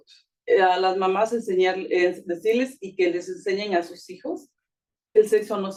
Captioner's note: speaking Spanish